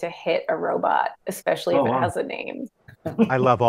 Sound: panel laughing

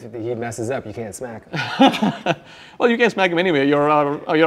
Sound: laughs

